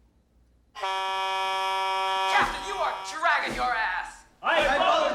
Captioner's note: blaring